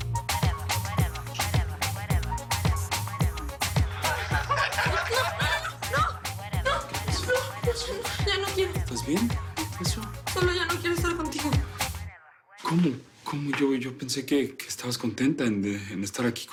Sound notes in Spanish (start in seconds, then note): 4.3 Risas y mofas